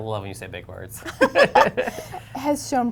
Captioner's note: laughter